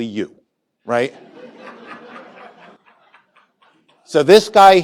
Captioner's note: laughter